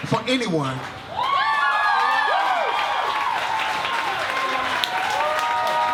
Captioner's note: audience cheers and claps